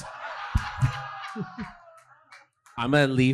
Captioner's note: audience laughing